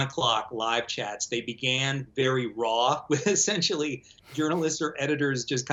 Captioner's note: laughs